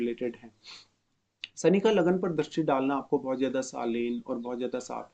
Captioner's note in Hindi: नाक से की जाने वाली आवाज़